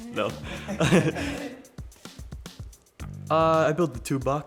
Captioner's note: laughing